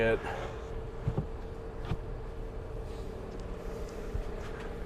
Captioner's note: soft thuds